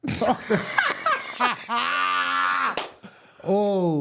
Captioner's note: laughing